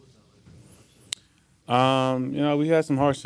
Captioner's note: tongue clicks